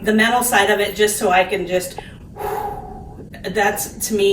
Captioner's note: exhales loudly